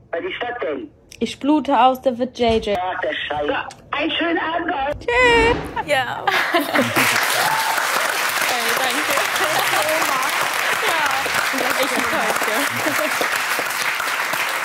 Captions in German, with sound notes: Ja ... (Lachen) (Applaus, Jubel) (lachend:) Danke! Oha! - Ja.